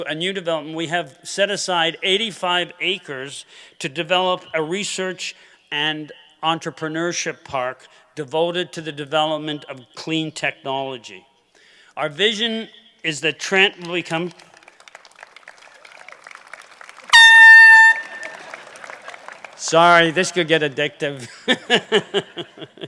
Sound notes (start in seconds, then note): 13.8 applause; 17.0 horn beeping